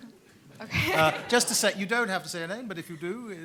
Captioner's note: laughs; everyone laughs